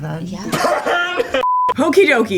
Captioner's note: man laughing loudly